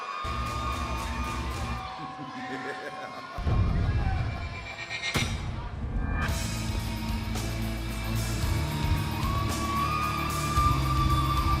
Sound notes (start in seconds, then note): 8.2 crowd cheering